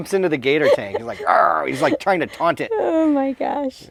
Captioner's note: growls